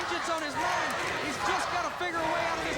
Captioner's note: crowd cheering